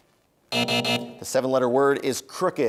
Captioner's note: buzzer